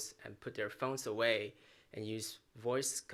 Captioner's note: none